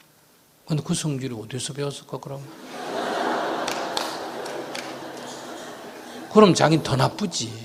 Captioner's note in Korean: 청중 웃음